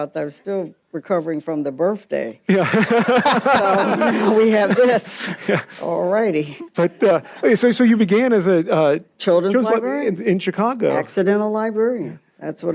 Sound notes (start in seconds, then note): 2.6 audience laughs